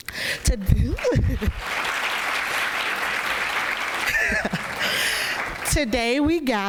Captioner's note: applause